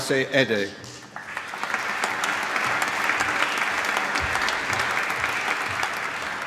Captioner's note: applause